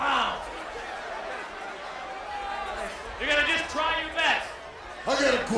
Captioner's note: applause